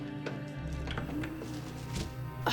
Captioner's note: VCR clicks; VCR whirs